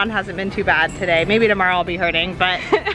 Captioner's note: laughs